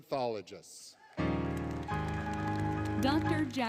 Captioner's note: cheering, Applause, Music